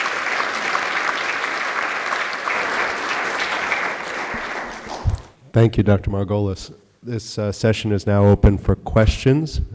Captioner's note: applause